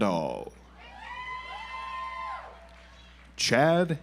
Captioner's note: audience applauds